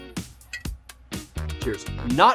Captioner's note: glass clinks